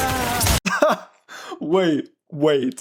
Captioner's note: laughing